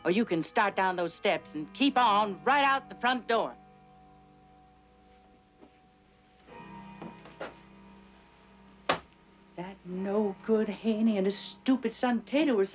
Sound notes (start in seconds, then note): 6.5 clock chiming